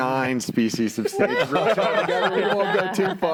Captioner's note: panels laughing